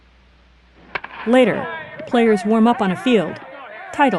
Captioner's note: random shouting